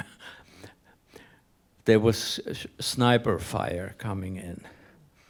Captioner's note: laughs